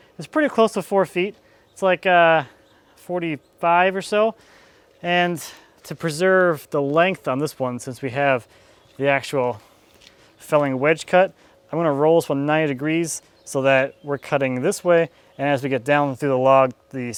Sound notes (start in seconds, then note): none